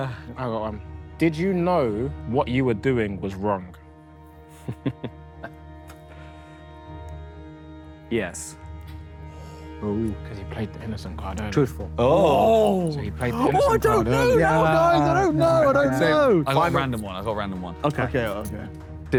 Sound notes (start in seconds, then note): 13.2 Sidemen cheer